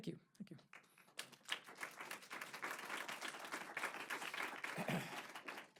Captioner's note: applause